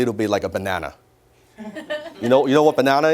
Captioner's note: audience laughs